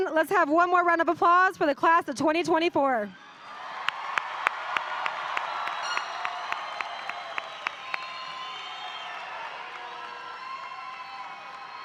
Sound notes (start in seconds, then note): 3.2 audience cheering; 3.5 audience applauding